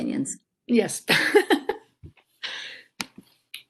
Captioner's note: laughter